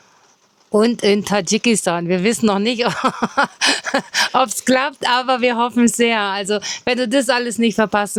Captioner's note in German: gelächter